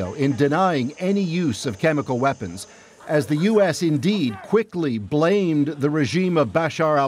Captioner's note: none